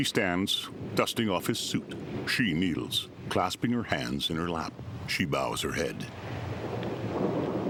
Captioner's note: thunder rumbling